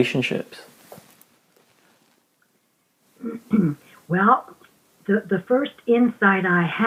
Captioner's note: clears Throat